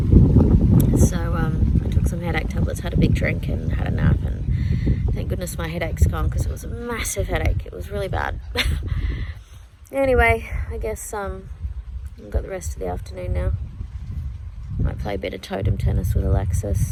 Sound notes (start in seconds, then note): 8.5 wry chuckle